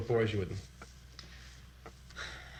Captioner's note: sighs